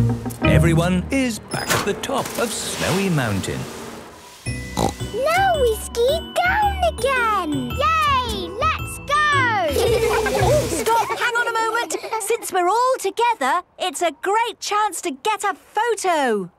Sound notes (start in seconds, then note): 4.7 snorting; 9.7 laughter